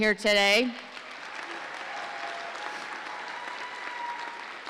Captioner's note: audience applauding